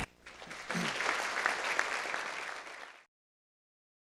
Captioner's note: clapping